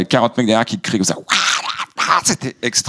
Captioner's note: shouts